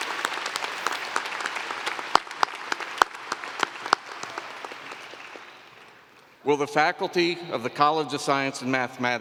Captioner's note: applause